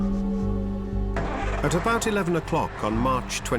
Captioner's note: engine starts